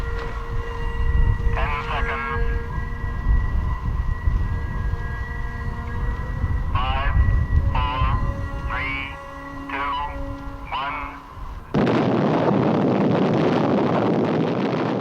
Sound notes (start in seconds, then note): 11.7 atomic explosion